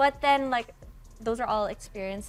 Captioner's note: none